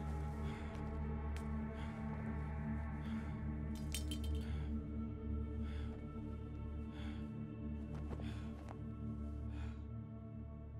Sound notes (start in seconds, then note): 3.8 blade clinking